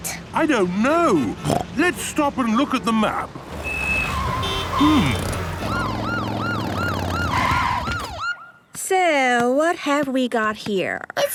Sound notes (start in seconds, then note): 3.4 honking, sirens